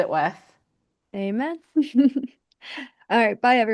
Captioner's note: chuckles